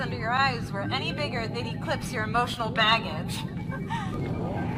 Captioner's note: chuckles